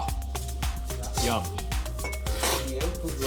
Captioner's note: slurps